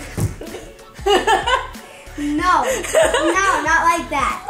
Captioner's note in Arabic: يضحك